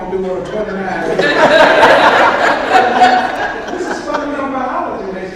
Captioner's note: audience laughs